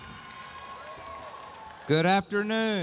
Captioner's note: cheering